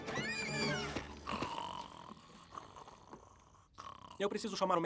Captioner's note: snoring